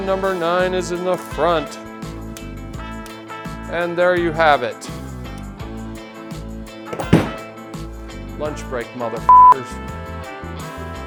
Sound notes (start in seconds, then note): 6.9 tool hits table